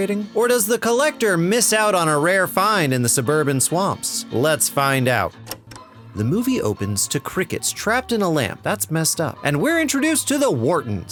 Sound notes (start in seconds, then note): none